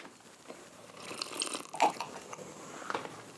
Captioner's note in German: Schlürfen